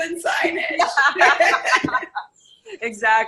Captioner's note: laughing